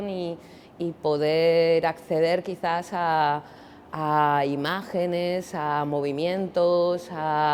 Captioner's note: none